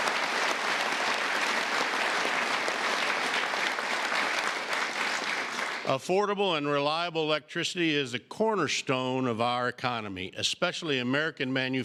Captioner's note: applause